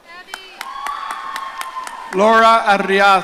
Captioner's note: audience cheering